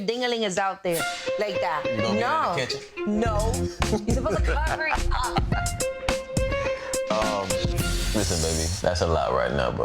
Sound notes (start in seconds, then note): 5.6 laughing; 5.6 mischievous music